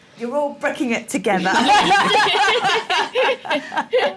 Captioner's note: laughter